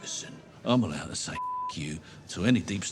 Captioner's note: beep